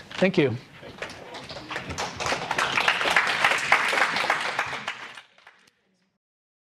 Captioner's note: audience applause